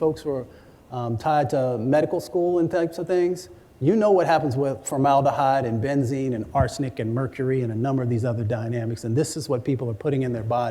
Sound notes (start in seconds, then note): none